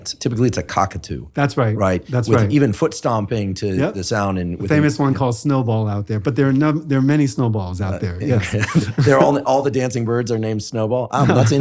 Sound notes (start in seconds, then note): 8.2 laughs